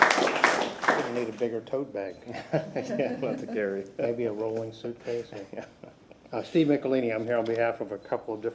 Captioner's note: applause